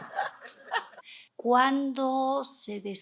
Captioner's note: risas